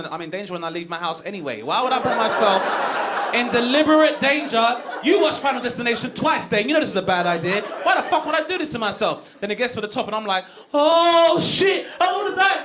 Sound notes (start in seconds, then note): 1.9 audience laughing